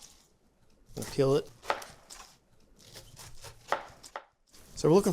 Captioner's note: knife chopping